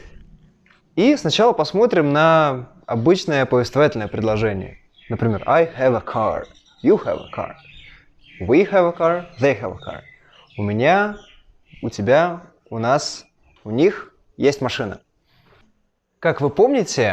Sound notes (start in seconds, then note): 9.2 translating into Russian